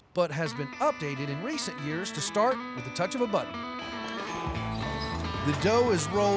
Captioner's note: clicking button